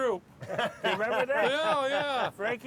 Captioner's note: laughing